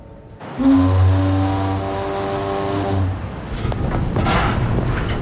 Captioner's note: ship horn blowing